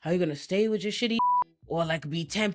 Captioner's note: beep